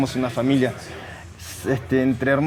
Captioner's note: indistinct chatter